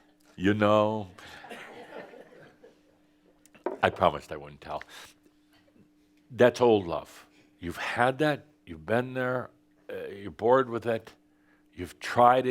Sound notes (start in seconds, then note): 0.0 some chuckles; 1.2 more chuckles